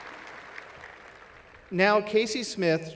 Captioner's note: applause